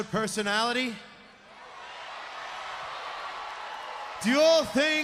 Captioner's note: crowd cheering